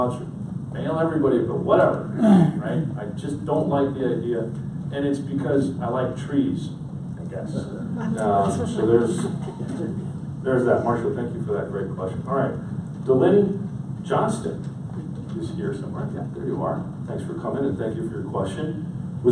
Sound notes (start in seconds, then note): 7.9 audience laughs